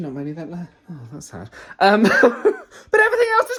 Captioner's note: laughs